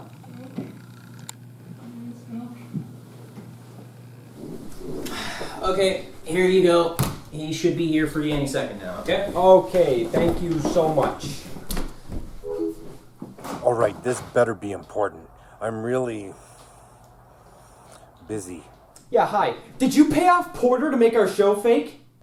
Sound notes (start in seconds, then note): 12.4 computer chimes; 15.2 exhales